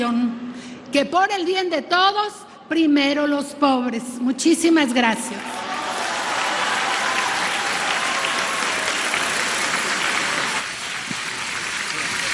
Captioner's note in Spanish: aplausos